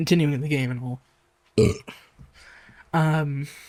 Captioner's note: burping